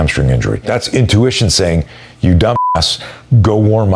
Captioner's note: beep